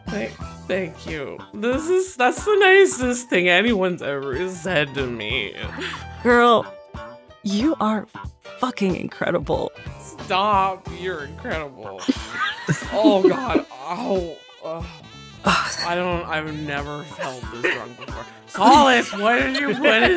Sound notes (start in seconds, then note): 12.0 EVERYONE chuckles